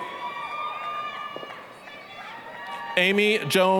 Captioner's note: applause, cheering